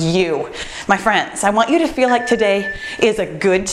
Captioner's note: timer beeps